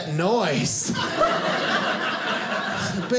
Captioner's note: audience laughing